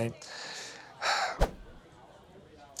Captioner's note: sighs